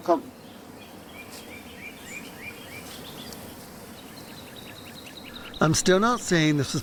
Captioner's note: birds chirping